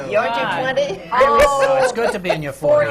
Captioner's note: laughs